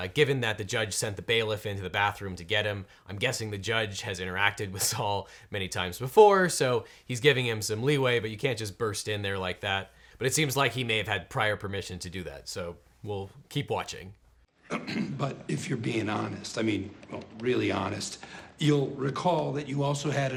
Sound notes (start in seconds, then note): 14.6 coughs